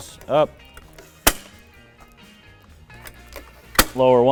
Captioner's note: leg clicks